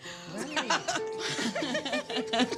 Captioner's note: all laughing